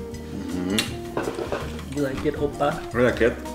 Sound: smooching

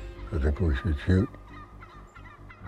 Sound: turkey gobbles

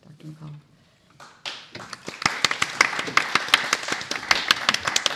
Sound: applause

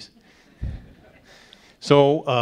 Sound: audience laughs

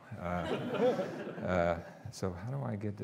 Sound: audience laughing

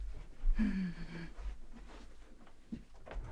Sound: sighs

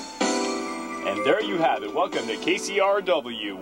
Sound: radio voice

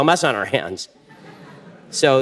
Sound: audience laughter

